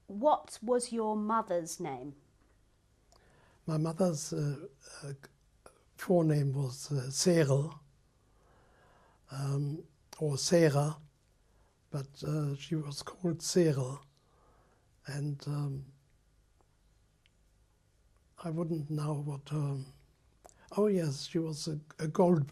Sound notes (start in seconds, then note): 9.3 pauses for 3 seconds; 15.5 pauses for 3 seconds